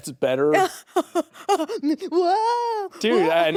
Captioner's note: chuckling